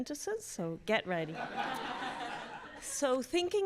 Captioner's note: audience laughs